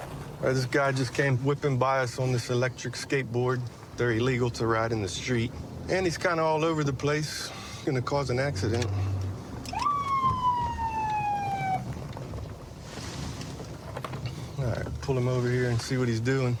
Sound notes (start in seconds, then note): 9.5 sirens blaring